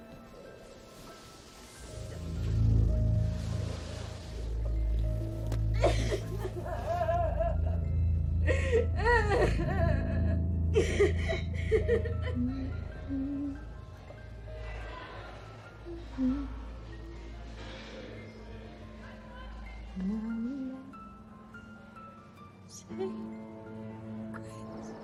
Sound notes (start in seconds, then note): 5.8 crying; 9.0 sobbing; 12.2 humming; 20.6 singing quietly